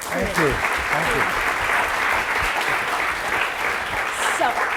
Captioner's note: applause